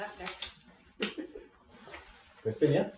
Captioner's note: chuckling